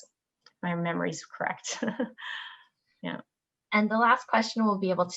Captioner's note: chuckles